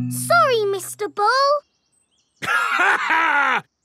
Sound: laughs

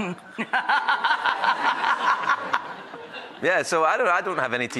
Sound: laughs

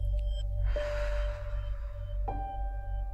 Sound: Gabriel exhales

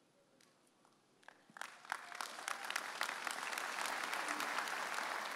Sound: audience applauding

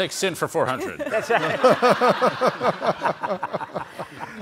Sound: all laugh

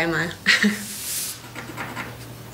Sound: laughs

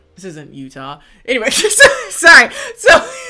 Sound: laughs

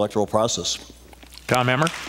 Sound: applause

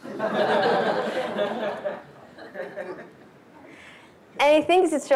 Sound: laughter

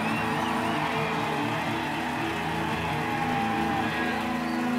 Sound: cheering and applause

